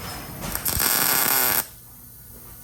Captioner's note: saw buzzing